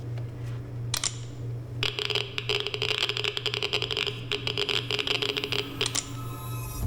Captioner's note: geiger sensor clicking